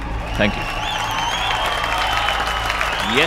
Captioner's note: All clapping